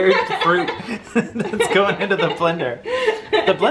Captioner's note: laughs